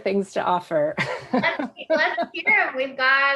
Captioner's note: laughs